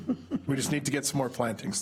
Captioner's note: chuckling